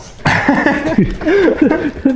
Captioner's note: chuckles